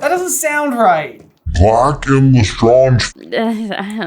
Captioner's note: slow and deep